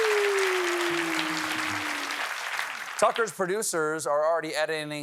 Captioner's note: cheers and applause